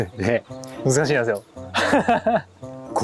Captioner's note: laughing